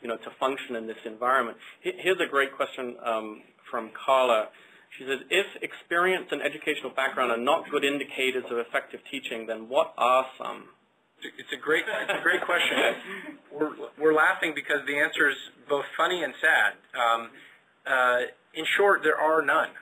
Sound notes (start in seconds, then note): 11.7 laughter